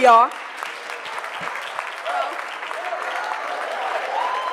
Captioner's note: cheering and applause